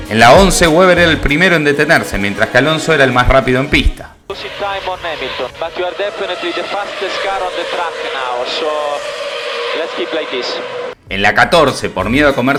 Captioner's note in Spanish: radio